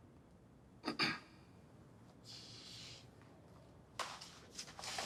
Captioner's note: clears throat